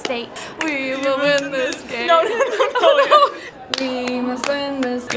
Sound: laughing

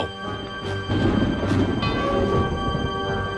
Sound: thunder crackles

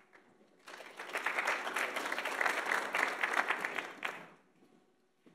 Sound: audience applauds

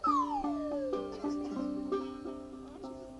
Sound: whistle

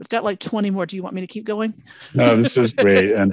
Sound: laughs

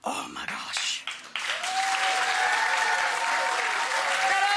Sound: applause

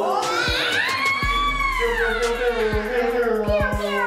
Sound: shouting

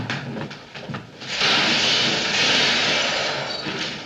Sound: crash!

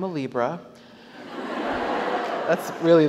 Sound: audience laughs

